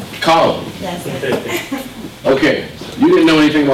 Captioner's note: laughter